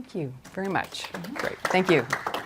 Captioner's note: applause